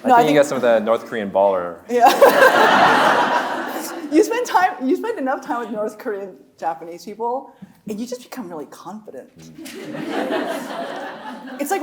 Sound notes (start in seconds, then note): 2.1 audience laughing; 2.1 laughing; 9.6 audience laughing